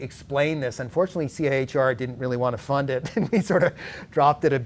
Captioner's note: laughs